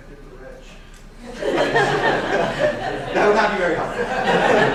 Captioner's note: laughing